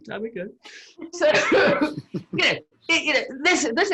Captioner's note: all laugh